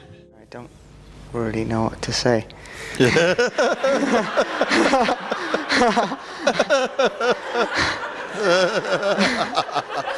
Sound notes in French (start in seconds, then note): 4.5 rires